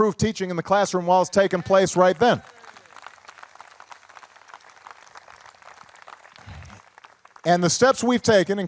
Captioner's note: applause